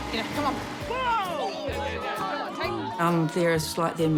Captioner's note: all yell